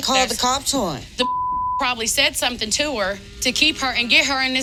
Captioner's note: beep